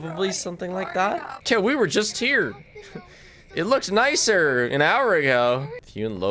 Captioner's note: laughs